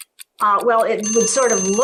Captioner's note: timer bell chiming